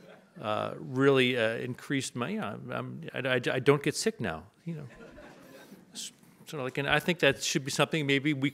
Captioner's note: audience laughs